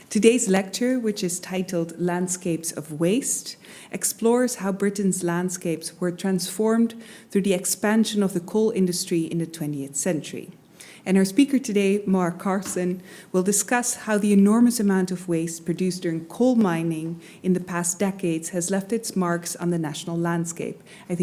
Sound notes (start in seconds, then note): none